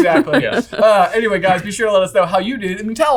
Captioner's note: sighs